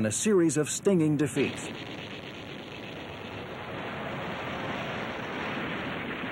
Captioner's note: gunshots